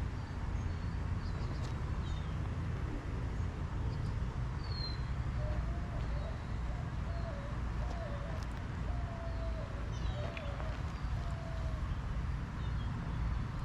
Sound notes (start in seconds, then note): 6.8 birds chirping; 8.8 wind blowing